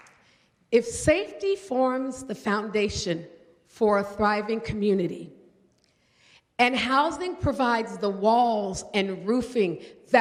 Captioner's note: applause